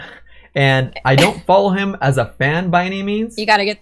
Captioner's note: laughs